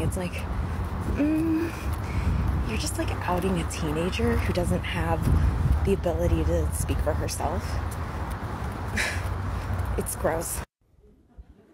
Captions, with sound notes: It's like, mm, you're just like outing a teenager who doesn't have the ability to speak for herself. (scoffs) It's gross.